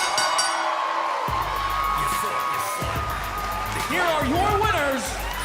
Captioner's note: bell ringing